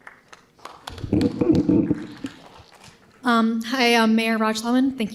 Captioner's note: audience applauding